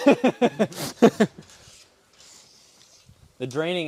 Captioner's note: men laughing